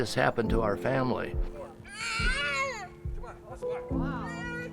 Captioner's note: crying